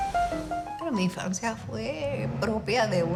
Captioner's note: speaking in Spanish